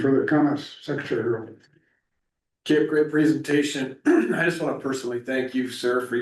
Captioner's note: clears throat